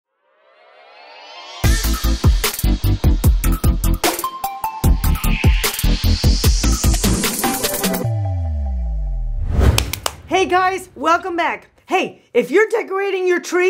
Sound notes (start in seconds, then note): 0.8 upbeat electronic music; 9.7 clapping hands